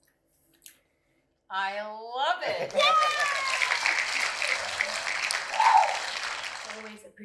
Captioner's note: applause